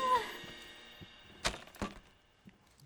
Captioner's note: clipboard clacks